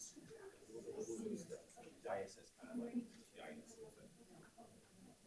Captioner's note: people chattering